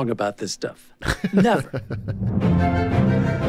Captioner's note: laughs